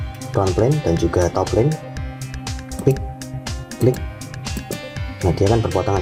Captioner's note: click